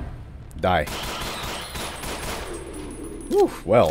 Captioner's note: even moar PEW PEW